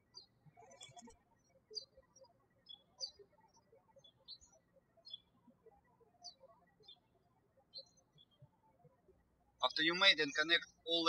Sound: birds chirping

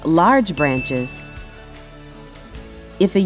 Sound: bell Rings

